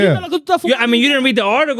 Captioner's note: speaking In Foreign Language